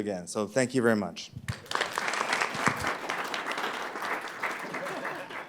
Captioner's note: applause